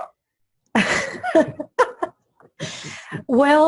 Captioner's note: laughs